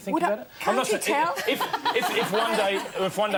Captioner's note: audience laughs